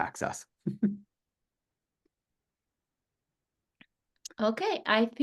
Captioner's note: chuckles